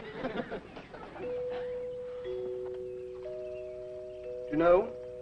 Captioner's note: doorbell rings